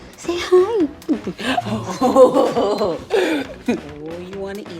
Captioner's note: laughing